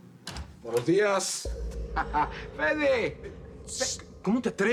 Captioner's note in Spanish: Sonido al abrir la puerta